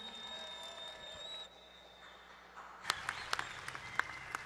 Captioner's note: applause